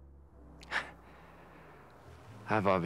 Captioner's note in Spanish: ríe